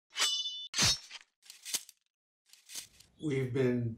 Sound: swords slashing

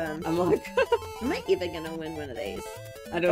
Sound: laughs

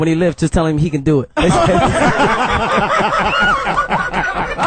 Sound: all laugh

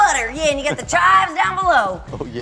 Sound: laughs

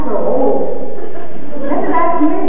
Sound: laughter

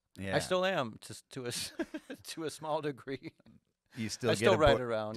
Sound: chuckles

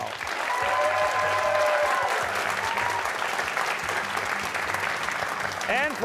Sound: cheers and applause

